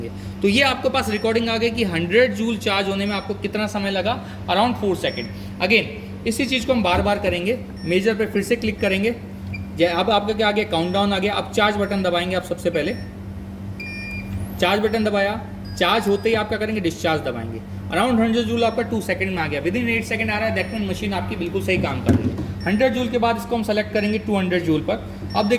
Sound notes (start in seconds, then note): 13.8 beep sound